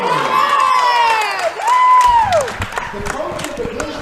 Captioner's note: cheering